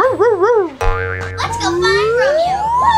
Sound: assistant bouncing

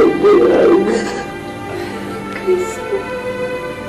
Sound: sobs

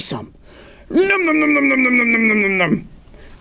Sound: nom-nom-nom-nom

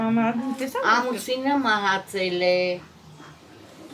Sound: speaking Armenian

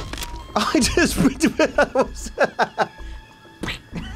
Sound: laughs

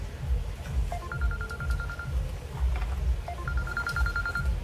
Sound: cell phone ringing

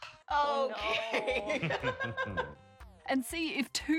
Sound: chuckling evilly

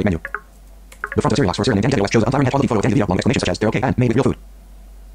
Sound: extremely fast speaking

